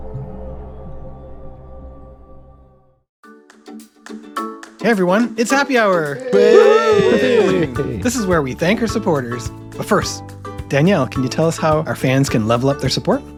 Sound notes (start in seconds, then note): 6.0 cheering